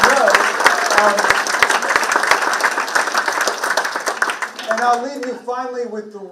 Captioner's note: participants clapping